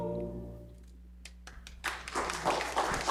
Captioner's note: Aplauze